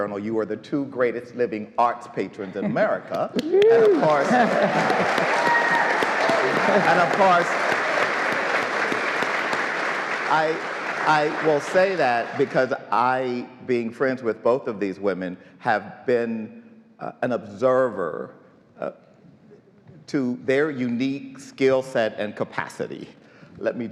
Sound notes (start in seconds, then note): 3.3 audience applauds